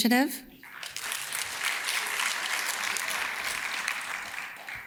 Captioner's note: audience claps